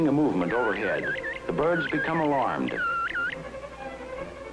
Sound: bobwhite sounds

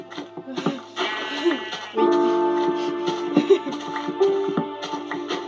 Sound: laughs; game music and sound

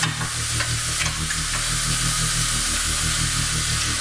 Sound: water boiling

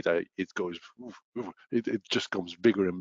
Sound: chanting

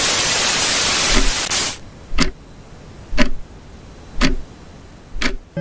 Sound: Static; clock Ticking

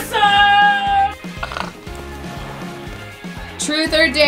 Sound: snoring

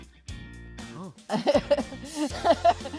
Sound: laughs

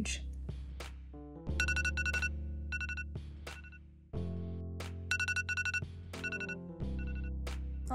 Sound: alarm clock ringing

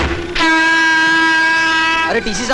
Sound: horn blares

